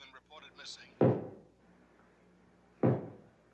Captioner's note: thudding